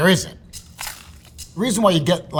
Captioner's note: percussion rattling; sandwich rustling